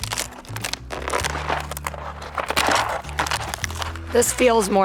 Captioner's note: luffa skin crunching